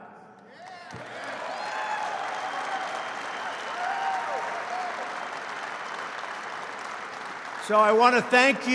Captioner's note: applause